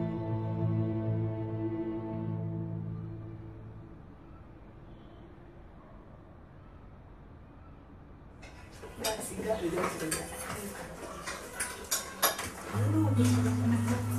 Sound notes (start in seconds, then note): 8.7 people chattering